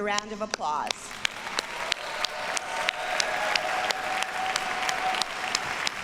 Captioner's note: audience cheers and applauds